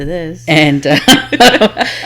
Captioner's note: laughs